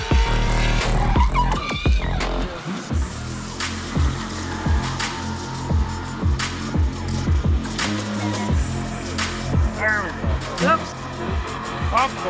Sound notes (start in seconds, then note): 2.3 upbeat music; 5.8 engine revving